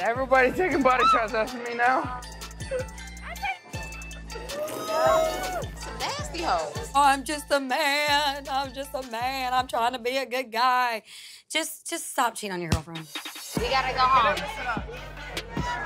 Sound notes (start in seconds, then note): 4.8 woman slurps